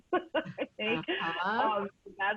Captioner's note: laughing